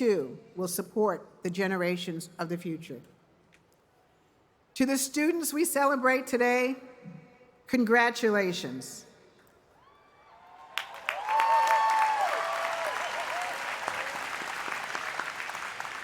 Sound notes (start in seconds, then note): 9.8 cheers and applause